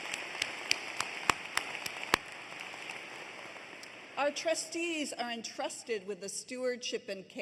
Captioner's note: applause